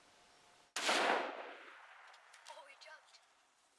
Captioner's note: gun shot rings out